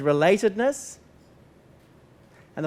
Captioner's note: pause